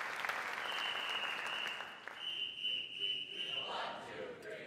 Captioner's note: whistle tweeting